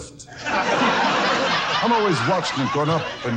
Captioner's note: audience laughs